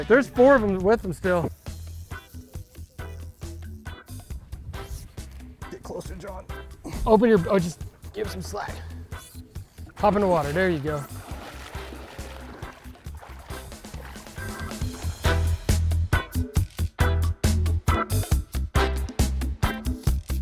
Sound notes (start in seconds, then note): 2.4 fun upbeat music; 11.9 water splashing; 15.6 fun upbeat music